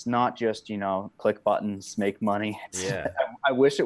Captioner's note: laughs